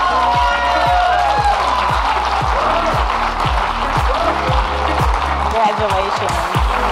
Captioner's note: audience clapping and cheering